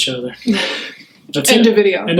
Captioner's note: laughing